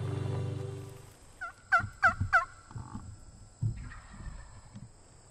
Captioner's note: turkey call